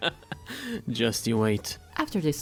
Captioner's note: inhales